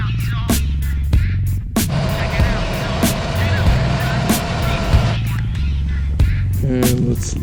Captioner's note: gas hissing